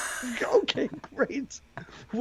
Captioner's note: laughing